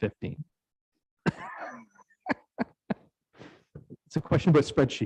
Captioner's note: laughs